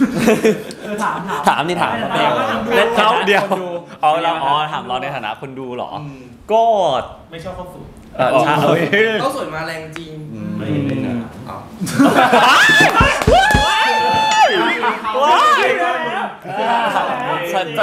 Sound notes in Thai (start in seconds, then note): 12.6 ปรบมือ